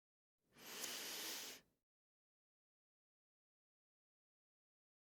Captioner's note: inhale